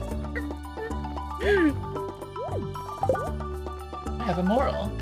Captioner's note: gasp